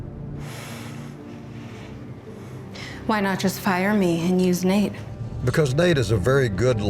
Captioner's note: sighs